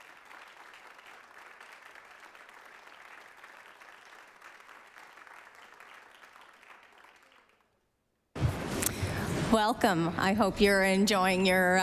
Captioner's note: applause